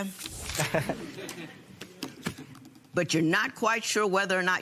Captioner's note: laughter